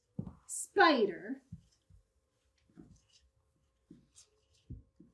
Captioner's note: marker brushes whiteboard